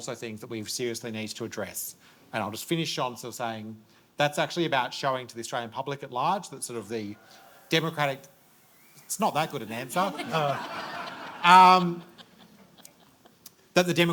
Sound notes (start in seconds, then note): 7.8 audience cheers; 9.6 audience laughs